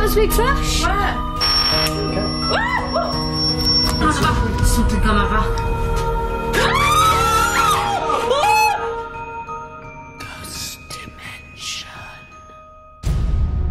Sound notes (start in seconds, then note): 2.5 screams; 6.5 screaming; 10.5 eerie whispering